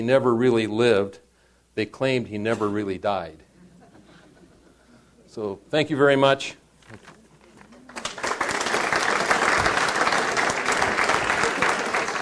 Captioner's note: audience applauds